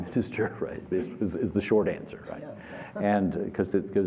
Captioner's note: laughter